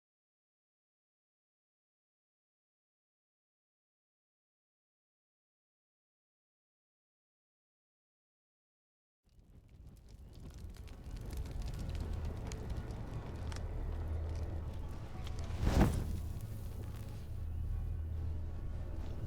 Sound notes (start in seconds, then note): 9.2 fire crackles